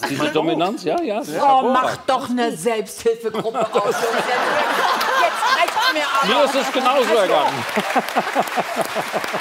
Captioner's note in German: Lachen